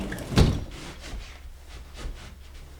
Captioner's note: door closes